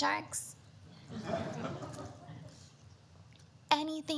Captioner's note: audience laughter